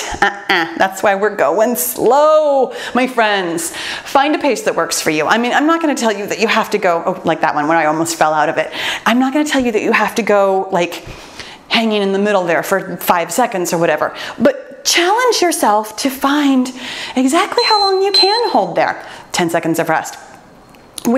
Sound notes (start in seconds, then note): 17.5 timer beeps